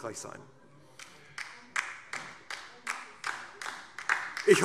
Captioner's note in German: Beifall DIE LINKE